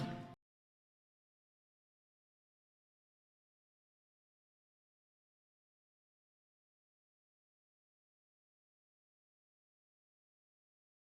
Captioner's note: yup… same silence